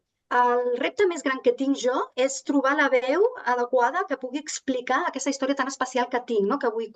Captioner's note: continues speaking in Catalan